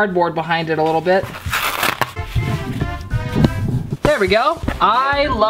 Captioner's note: ripping